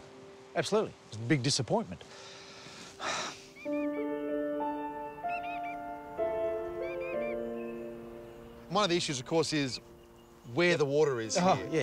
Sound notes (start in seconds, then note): 2.2 sighs; 4.0 mournful music; 7.1 birds squawk